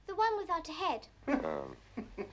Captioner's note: chuckling